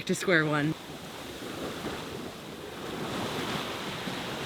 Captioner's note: water sloshes